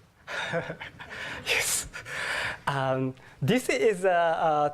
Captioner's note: laugh